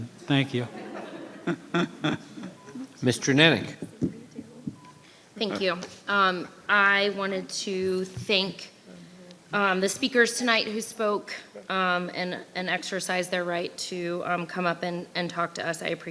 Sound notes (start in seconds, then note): 0.6 audience chuckles